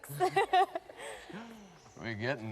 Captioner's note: both laughing